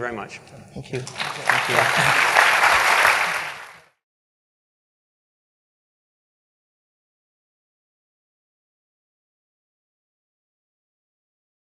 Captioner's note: applause